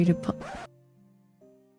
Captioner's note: record scratch